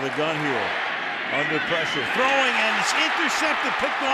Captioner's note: cheering